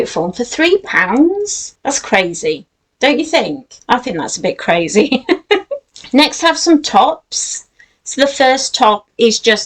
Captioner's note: giggles